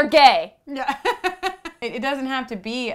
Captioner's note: laugh